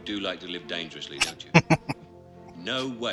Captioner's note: laughing